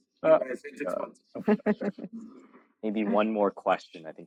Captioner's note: laughs